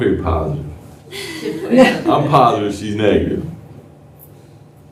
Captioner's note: laughter